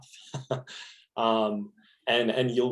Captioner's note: laughing